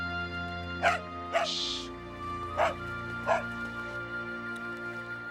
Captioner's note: Patch barking